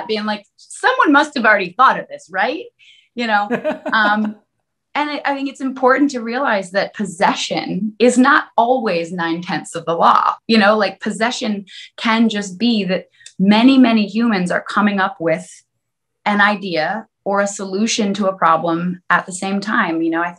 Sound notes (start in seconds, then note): 3.4 laughs